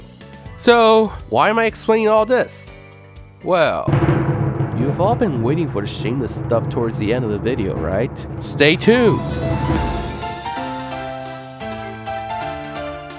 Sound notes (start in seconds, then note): 4.1 low register softspoken